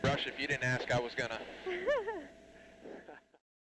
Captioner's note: laughs